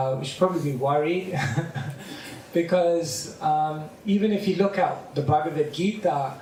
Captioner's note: laughter